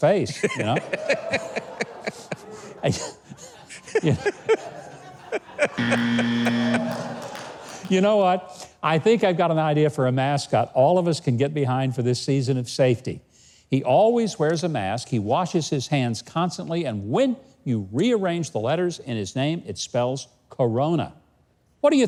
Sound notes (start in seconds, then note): 0.3 laughing hard; 0.4 audience laughing; 5.4 Governor laughing; 5.7 buzzer buzzing